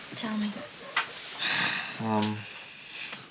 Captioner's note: sighs